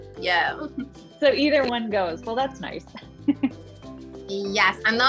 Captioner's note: laughs